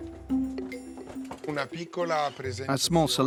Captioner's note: Italian spoken audio